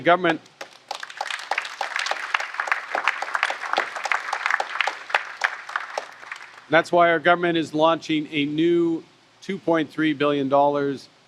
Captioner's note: applause